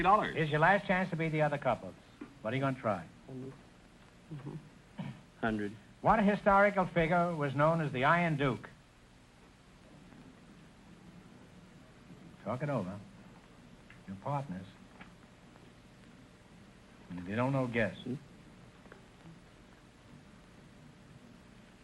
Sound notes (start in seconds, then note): 3.3 whispering; 15.9 whispering